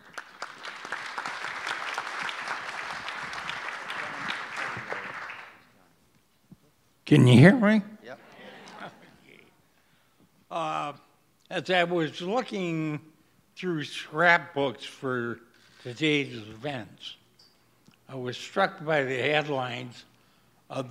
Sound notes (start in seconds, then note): 0.0 audience applause; 8.2 audience responds positively